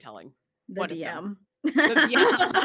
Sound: laughs

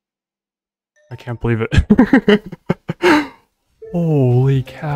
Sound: laughter

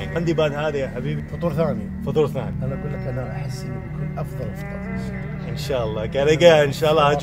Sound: speaking Arabic

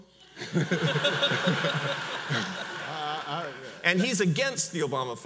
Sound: audience laughs

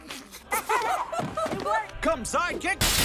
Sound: laughing

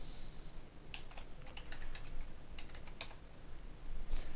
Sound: typing

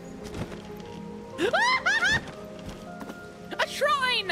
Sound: screaming

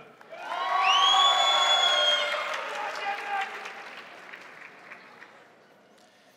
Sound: crowd applauding; crowd cheering

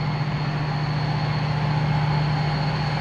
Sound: engine noise

